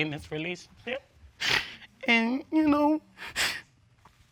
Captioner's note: cries